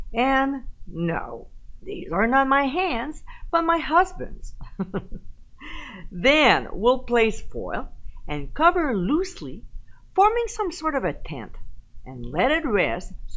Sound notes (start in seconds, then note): 4.6 giggling